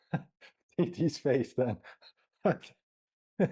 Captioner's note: luaghs